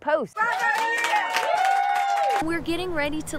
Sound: hands clapping

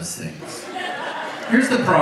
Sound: audience laughs

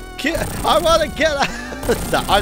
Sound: chuckles

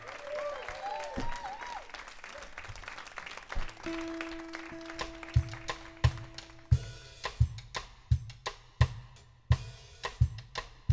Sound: applause

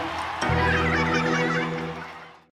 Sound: laughter

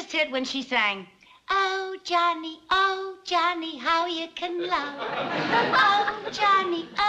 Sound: falsetto

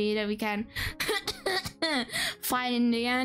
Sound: coughing

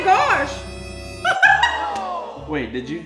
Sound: laughing

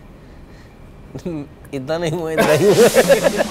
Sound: laughs

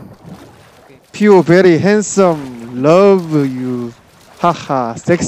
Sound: broken English

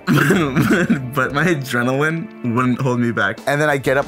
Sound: laughs

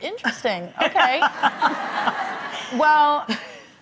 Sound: laughing

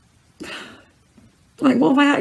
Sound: sob

